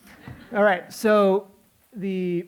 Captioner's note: laughter